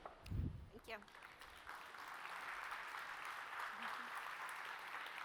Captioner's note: applause